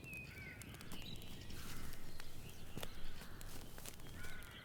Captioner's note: birds chirping